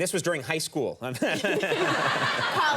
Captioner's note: both laughing